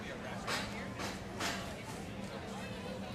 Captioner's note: none